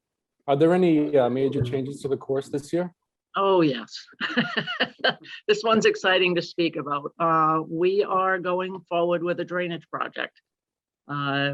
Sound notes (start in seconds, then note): 4.1 laughter